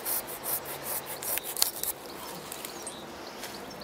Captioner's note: cracking